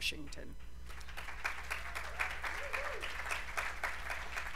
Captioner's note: applause